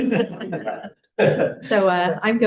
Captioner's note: laughter